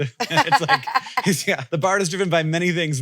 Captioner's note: laughs